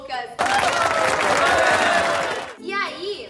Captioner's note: applause